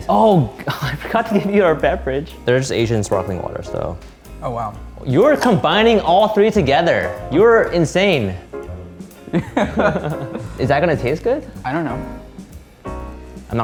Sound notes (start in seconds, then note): 9.2 men laughing